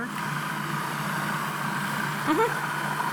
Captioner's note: processor grinding